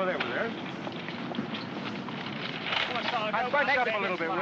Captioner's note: vehicles rumbling in distance